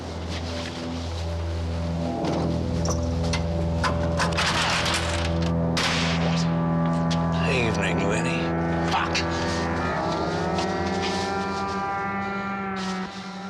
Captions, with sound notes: (ominous music) (lock rattles) - Evening, Lennie. - Fuck!